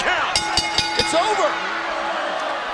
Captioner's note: bell rings